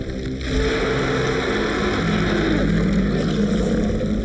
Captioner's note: ominous music; shark roaring